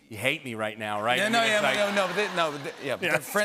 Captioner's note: laughter and applause